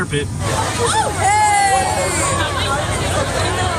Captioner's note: chattering crowd